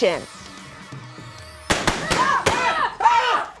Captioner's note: objects popping; screaming